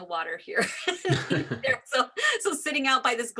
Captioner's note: laughs